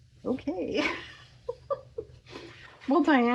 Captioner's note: laughs